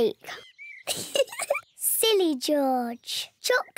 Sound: laughs

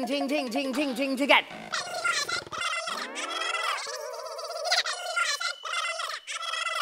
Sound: talking swiftly

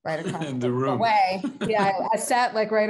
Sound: chuckles

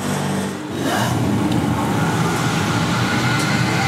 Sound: increasing machine noise

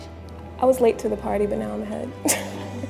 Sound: laughter

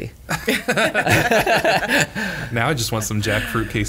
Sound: laughter

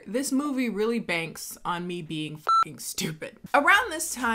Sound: beep

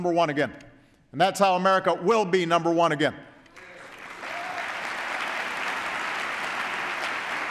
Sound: applause

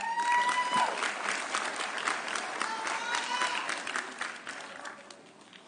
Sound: audience cheering

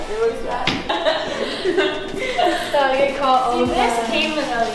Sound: laughter

